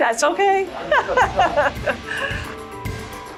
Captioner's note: laughing